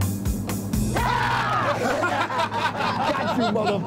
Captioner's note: both scream